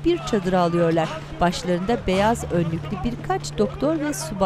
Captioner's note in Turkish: İnleme sesleri